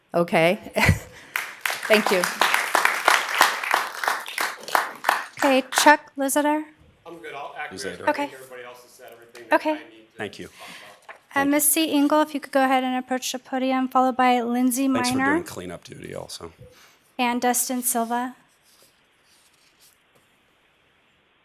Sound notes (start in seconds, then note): 3.6 applause